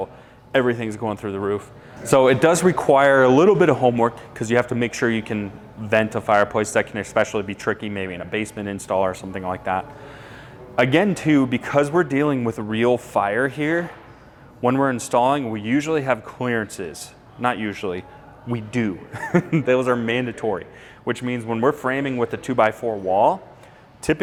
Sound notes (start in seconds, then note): 19.1 laughs